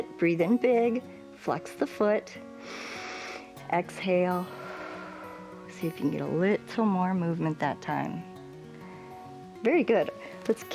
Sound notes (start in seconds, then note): 2.6 inhales; 4.4 exhales